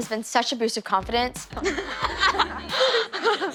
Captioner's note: laughter